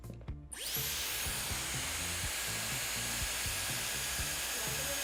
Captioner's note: device whirring